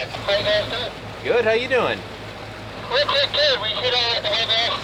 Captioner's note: radio crackling loudly; man Over Radio